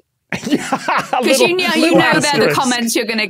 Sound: laughs heartily

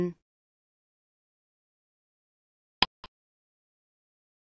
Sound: click sound

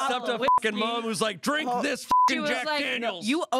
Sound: beep

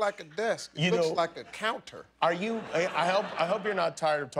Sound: laughter

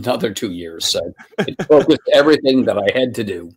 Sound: laughing

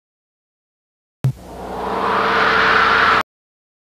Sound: analog synthesizer whoosh sounds; silence

